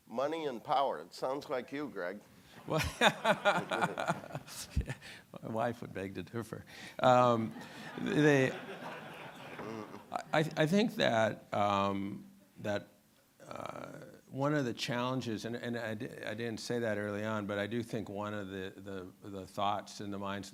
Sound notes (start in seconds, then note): 2.6 laughing; 7.5 audience laughing